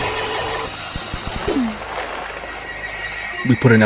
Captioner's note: fast forward sound; more fast forward sounds; still fast forward sounds